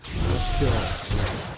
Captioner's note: gunfire